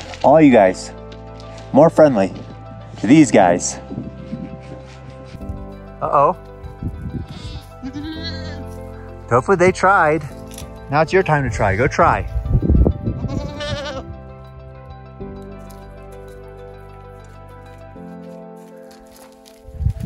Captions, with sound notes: All you guys, more friendly to these guys. Oh, oh. (goats bleating) Tofu, they tried. Now it's your time to try, go try. (goats bleating)